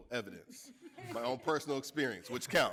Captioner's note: audience laughing